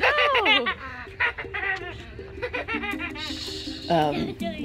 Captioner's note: laughing